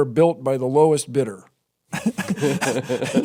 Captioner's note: laughter